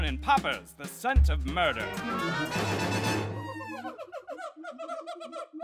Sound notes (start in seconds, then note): 3.0 monkeys howling